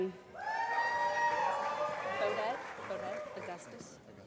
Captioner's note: applause